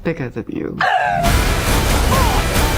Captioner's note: gasping